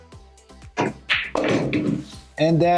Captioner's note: pool balls clacking and thudding